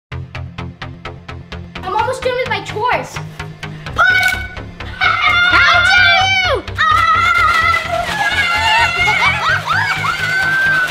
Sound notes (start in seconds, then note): 0.9 upbeat electronic music; 4.8 laughs; 7.0 yelling; 9.4 high-pitched laughter